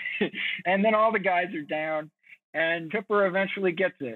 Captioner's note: chuckles